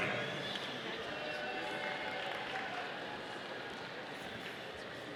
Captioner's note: audience applauding